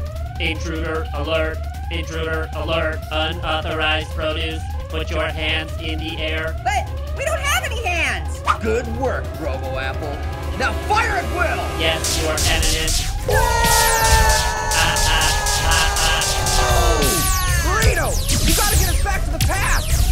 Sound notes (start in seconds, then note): 0.2 robotic voice; 12.7 lazers zapping; 13.2 fruits scream